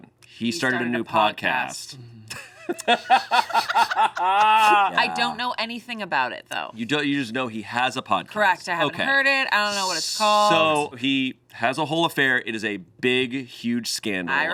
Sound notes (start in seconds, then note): 2.3 laughing